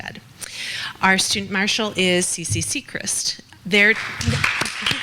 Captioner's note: clapping